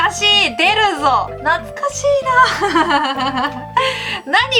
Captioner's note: laughs